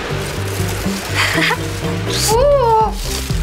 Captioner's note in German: Joyce lacht